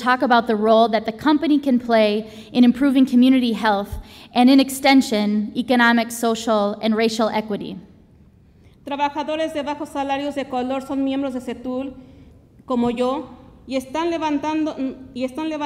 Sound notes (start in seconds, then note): 8.9 speaks Spanish